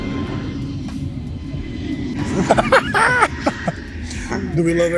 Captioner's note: inside joke laughter